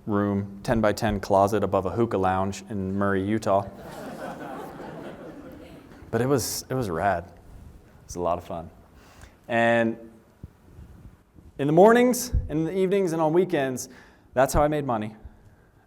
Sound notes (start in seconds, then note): 3.7 laughter